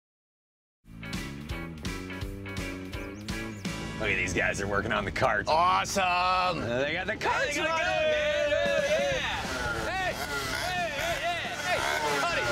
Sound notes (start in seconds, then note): 0.9 upbeat music; 8.9 engine revving